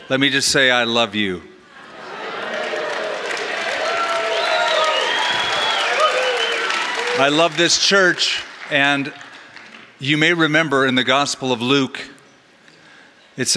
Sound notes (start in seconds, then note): 2.4 applause